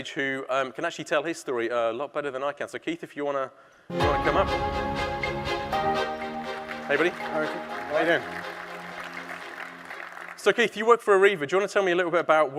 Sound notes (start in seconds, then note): 3.9 exciting music; 5.7 audience applauding